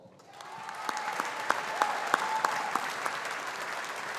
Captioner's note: audience applauding